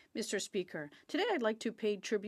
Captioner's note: speaking French